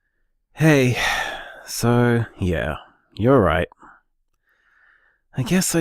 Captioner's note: sighs